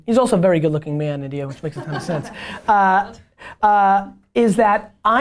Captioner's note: laughs